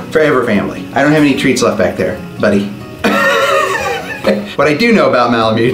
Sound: laughs

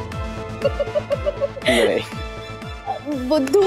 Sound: laughing

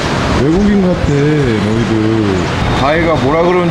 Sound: laughing

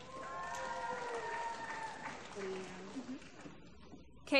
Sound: applause

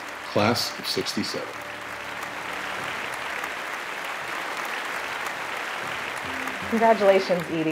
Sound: applause

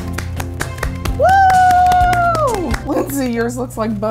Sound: both applauding; teacher screaming

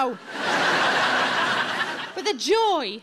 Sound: audience laughs

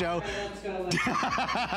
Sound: laughter

